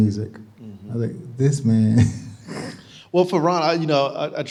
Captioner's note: chuckling